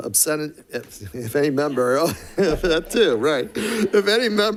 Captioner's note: chuckling